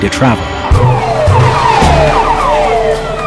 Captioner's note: sirens wailing